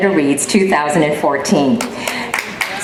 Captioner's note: applause